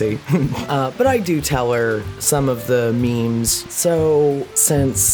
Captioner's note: laugh